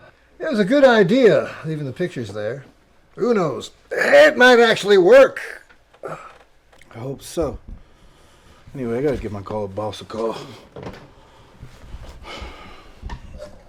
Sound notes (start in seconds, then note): 6.0 groans; 10.9 phone receiver clatters; 10.9 sighs loudly